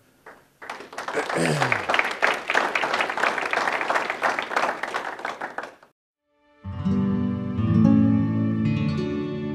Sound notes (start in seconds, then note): 0.2 audience claps; 6.3 soft music